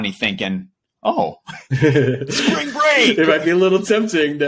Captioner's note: laughing